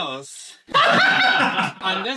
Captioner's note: scream laugh